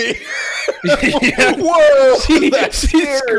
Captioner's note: laughing